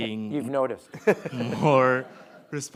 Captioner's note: audience laughing